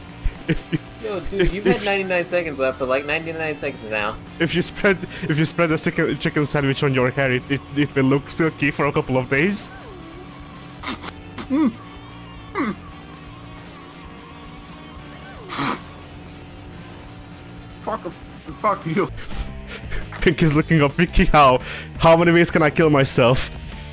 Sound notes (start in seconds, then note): 10.8 chokes on the chicken